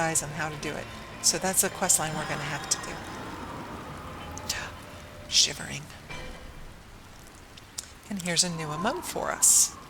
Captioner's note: shivering